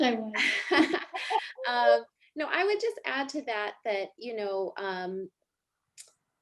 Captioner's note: chuckles